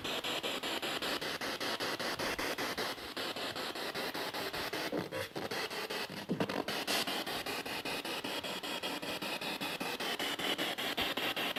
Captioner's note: noise of the spiritbox in the background